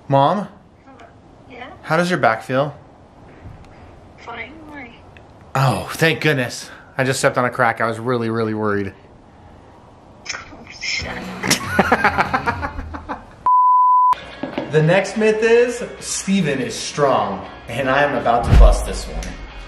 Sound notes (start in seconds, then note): 11.4 chuckles; 13.4 beep